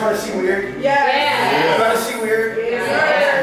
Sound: crowd

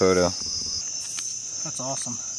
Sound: camera clicks

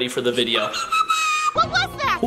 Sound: squealing

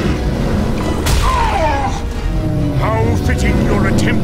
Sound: groans; roars

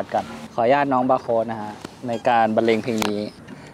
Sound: laugh

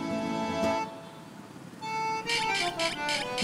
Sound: cap squeaks

